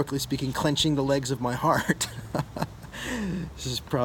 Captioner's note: laughs